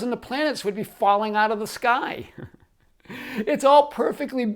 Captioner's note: chuckles